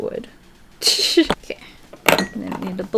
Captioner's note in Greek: Γέλια